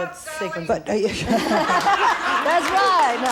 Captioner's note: all laugh